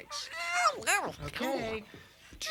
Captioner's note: Tasha babbles